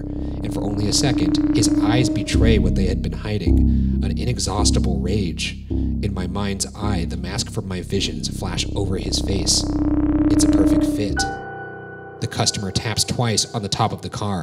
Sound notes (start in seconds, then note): none